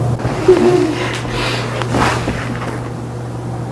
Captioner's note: cries